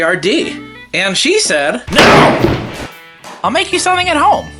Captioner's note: thuds